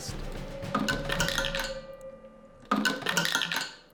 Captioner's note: plastic clinking